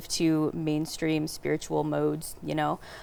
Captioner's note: none